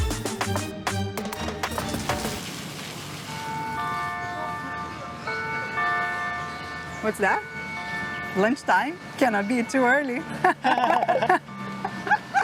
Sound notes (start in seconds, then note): 3.4 bell ringing; 10.2 laughs